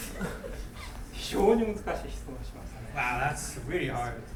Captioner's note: laughing; speaking in foreign language